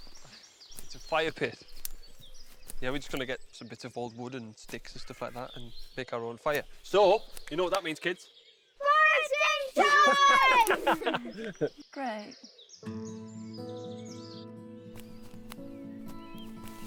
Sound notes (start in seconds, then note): 9.7 all laughing; 12.8 gentle orchestral music